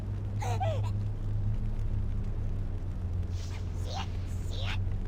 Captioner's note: sob